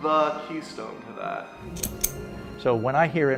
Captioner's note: clicking